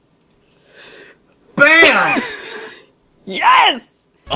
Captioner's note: laughs